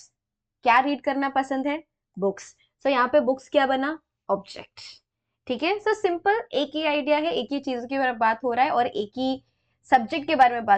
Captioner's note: explaining in hindi